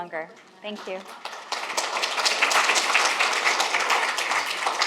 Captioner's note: audience applauds